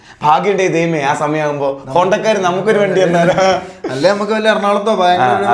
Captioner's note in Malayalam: പൊട്ടിച്ചിരി